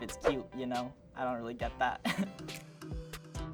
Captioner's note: chuckles; gentle music